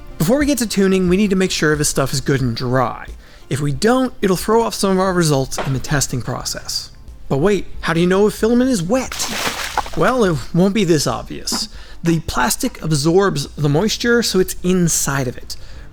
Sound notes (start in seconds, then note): 9.0 splash